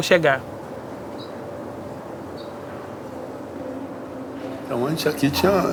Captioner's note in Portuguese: pássaros chilreando